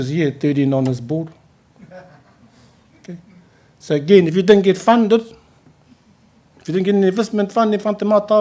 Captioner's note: laughs